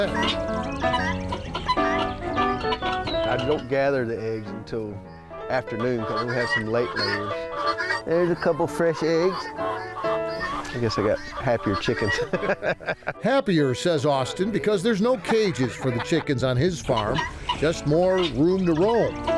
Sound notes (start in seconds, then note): 0.1 upbeat piano music; 12.1 laughs